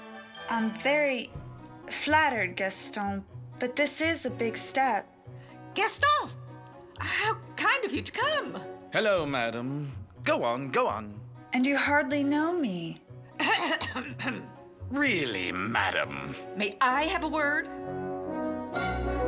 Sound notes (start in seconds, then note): 13.4 marguerite clears throat